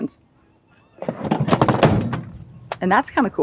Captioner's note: seat clacking